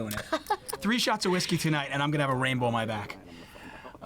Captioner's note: laughs